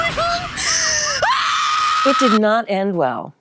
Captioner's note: screams